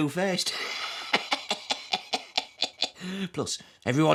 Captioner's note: laughs